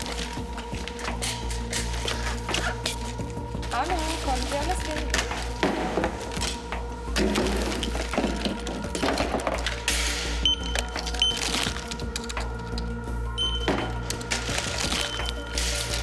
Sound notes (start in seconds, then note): 7.0 item sounds; 10.7 scanning sound